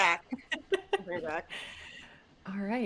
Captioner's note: chuckling